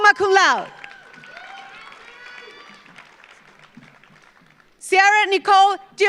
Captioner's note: audience cheers; audience applauds